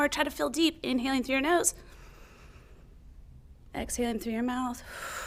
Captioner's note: inhales